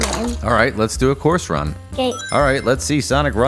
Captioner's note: Sonic Ring Chime